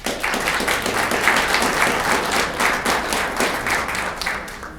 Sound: audience clapping

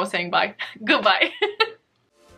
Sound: laughs

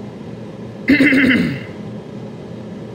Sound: clears throat

